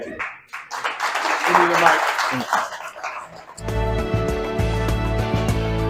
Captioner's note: audience applause